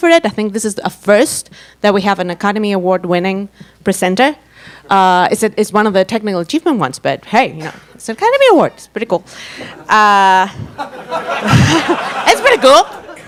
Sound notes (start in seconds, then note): 10.6 audience laughs